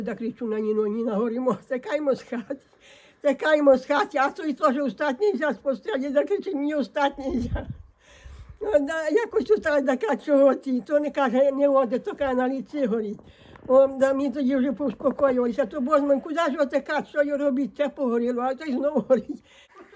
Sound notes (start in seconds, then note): 13.1 burning